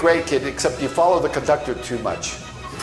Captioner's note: toilet flushes